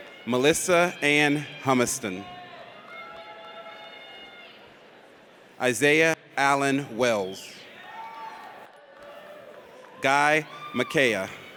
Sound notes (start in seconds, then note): 0.0 audience cheers; 2.6 audience cheers; 7.7 audience cheers